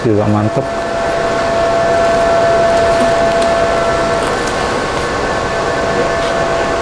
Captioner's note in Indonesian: suara kaos direnggangkan